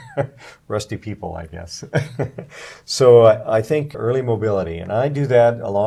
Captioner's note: laughing; laughing